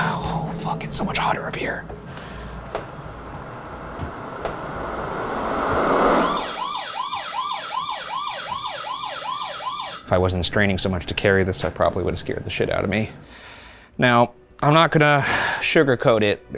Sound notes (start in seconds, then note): 2.2 eerie music; 6.4 alarm blaring